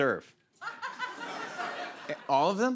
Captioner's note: laughter